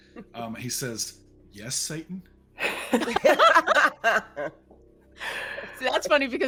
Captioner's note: people laughing